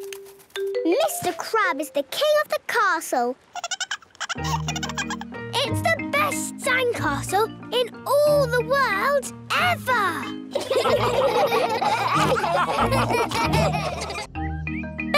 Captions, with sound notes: - Mr. Crab is the king of the castle! - (giggling) - It's the best sandcastle in all the world... ever! - (all laughing)